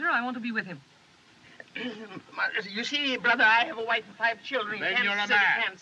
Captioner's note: clears Throat